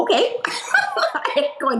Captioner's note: laughs